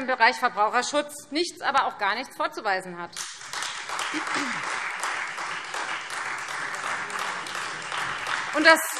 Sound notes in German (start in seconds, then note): 3.2 Beifall Freie Demokraten und vereinzelt SPD